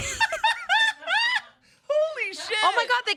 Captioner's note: laughing